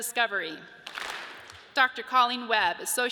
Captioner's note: audience claps